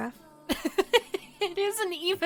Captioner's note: laughs